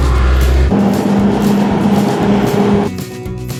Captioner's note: crawler Crane Engine Sound; asphalt Paver Engine Sound